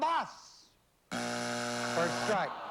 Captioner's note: buzzer